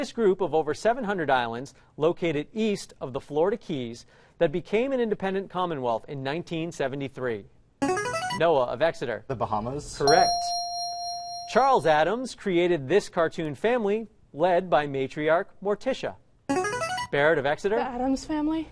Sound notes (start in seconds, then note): 7.8 chiming; 16.5 chiming